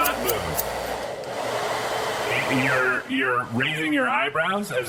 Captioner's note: SFX: Hairdryer blowing